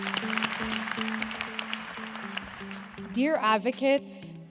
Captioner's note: applause